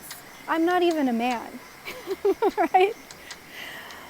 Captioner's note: laugh!